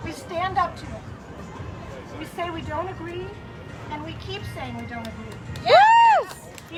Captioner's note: cheering